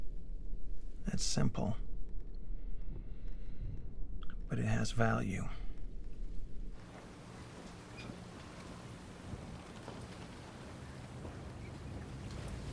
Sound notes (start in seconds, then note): 6.8 waves lapping; 7.7 seagulls mewing